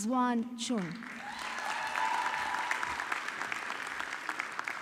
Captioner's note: audience clapping